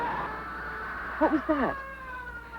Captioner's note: scream